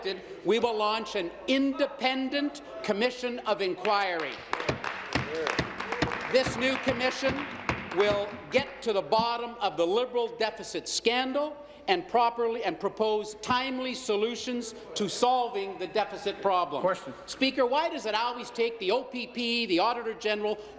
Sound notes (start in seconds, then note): 8.5 applause